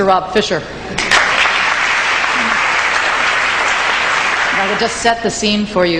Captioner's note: audience clapping